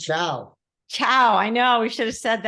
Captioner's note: speaking in Italian